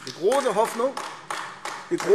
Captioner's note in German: Beifall AfD